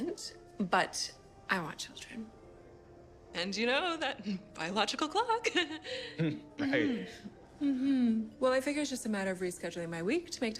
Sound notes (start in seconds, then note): 6.1 chuckling